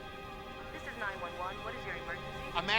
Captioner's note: operator On Phone